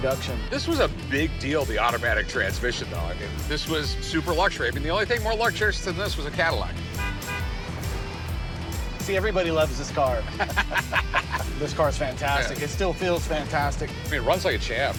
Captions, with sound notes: This was a big deal, the automatic transmission. This was super luxury. The only thing more luxurious -was a Cadillac. -[car honks] See? Everybody loves this car. This car's fantastic. -It still feels fantastic. -It runs like a champ.